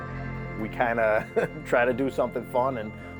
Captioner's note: laughs